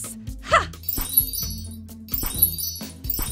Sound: magical chimes; poof

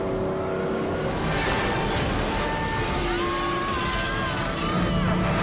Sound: vague unemotional screaming

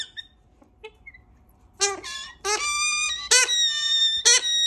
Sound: bird squawking

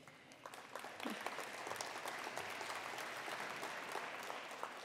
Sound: attendees applauding

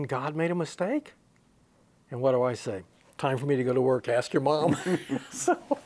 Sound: he laughs

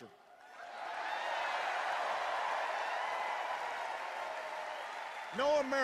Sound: cheers and applause

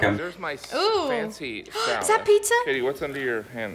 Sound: gasps

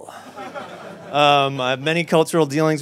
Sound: audience laughs

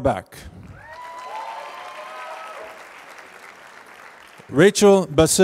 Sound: applause

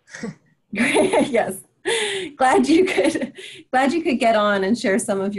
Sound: laughs

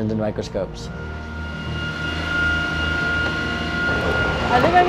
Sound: motor whirring

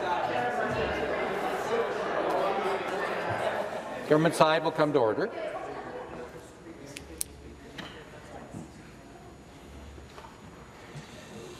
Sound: crowd Noise

